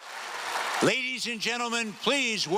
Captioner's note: cheers and applause from the audience